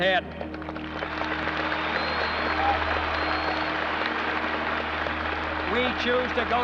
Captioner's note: audience cheers and applauds